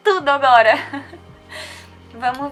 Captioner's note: giggles